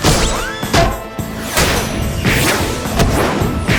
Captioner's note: continuous thwacking